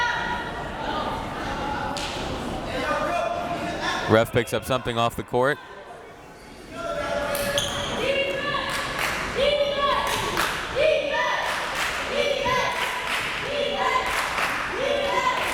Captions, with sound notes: Ref picks up something off the court. (crowd members chanting)